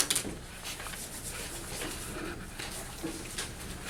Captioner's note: rustling of papers